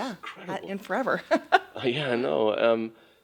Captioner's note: laughs